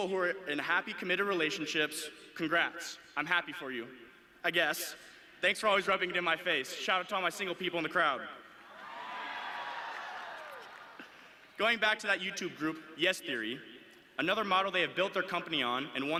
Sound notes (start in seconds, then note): 8.7 audience cheering